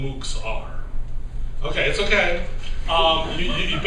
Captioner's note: laughter